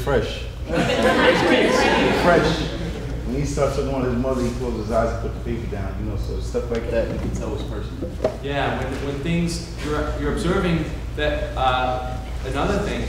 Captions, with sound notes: where's Fresh? (audience laughing) Fresh, when he started talking about his mother he closed his eyes and put the paper down, so stuff like that you could tell it was personal. - You're observing another thing that you notice